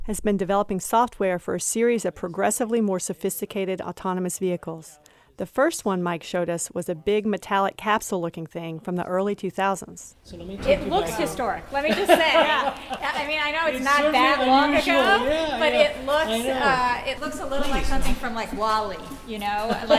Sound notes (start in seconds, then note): 11.8 laughter